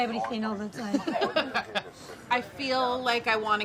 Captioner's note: laughs